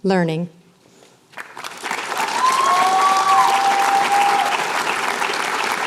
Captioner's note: applause, cheering